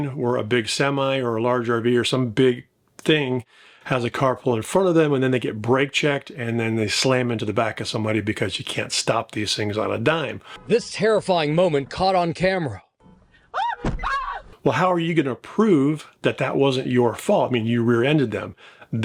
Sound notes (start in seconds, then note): 13.5 driver screaming